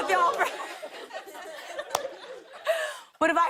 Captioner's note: laughter